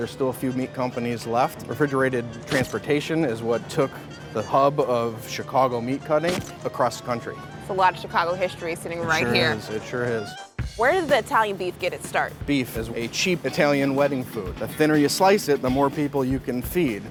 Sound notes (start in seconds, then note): 6.3 camera shutter